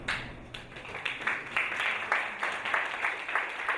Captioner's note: audience applauding